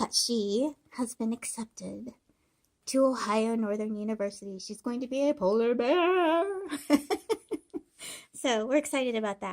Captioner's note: laughing